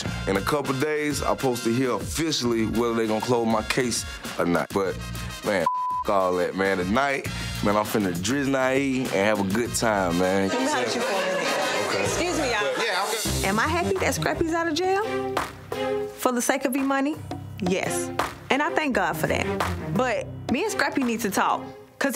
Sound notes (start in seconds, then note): 5.6 beep